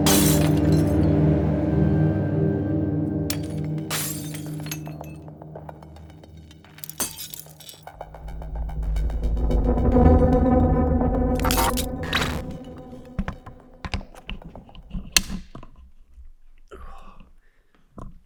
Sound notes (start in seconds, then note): 0.0 glass shattering; 3.5 glass shattering; 11.4 static crackling